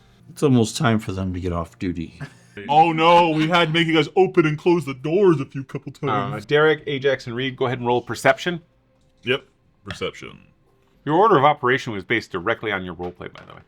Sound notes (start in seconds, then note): 5.8 laughs